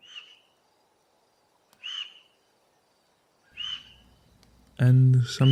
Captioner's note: A sharp bird chirping